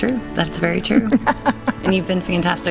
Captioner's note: laughing